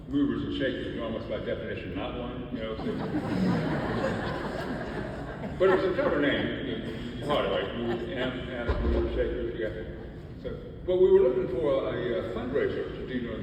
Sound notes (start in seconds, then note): 2.7 audience laughs